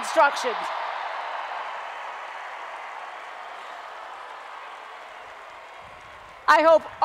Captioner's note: applause and Cheering